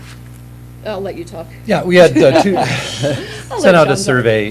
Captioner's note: laughter